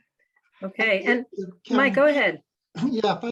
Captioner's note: murmurs